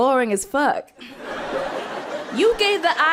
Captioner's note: people laughing